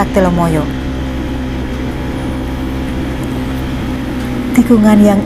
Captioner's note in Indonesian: suara motor